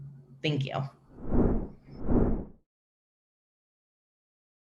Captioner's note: air whooshing